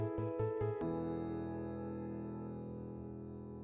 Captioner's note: bell chimes